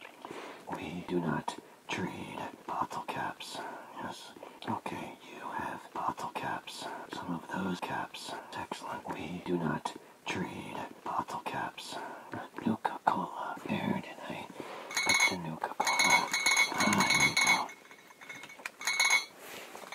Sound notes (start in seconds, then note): 14.9 clink; 15.8 clinkclinkclink